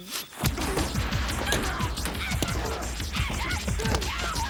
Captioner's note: dramatic music; Jodie yelling